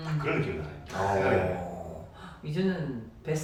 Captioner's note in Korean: 감탄